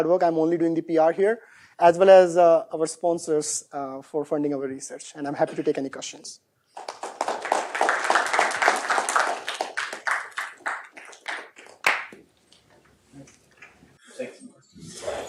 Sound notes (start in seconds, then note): 6.7 applause